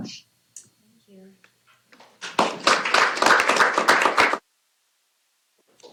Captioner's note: applause